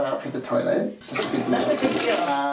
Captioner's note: flushing